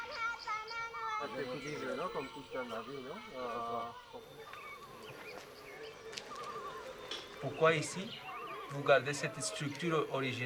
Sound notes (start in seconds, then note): 4.4 footsteps; 6.4 in french